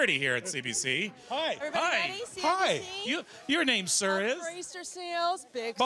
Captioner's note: yelling